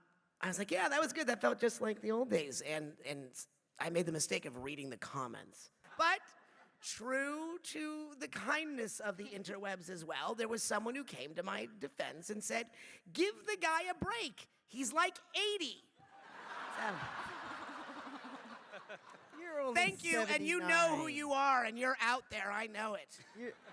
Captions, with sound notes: I was like, yeah, that was good, that felt just like the old days. And I made the mistake of reading the comments. But, true to the kindness of the interwebs as well, there was someone who came to my defense and said, give the guy a break, he’s like 80! [laughing] Thank you! And you know who you are, and you’re out there, I know it.